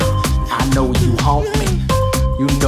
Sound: laughs; whimpers

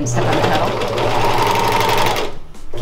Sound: machine humming

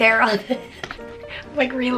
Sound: chuckles

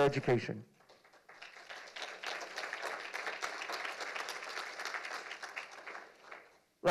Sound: applause

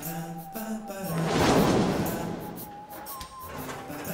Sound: whooshing; upbeat music

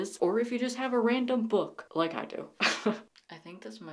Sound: laughs

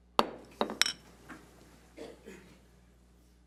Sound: thuds

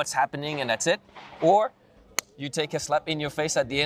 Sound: slaps palms

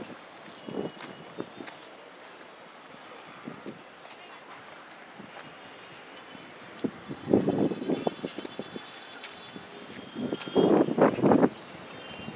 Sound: wind

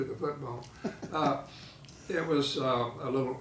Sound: laughing

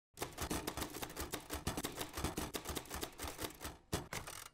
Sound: typing in a typewriter

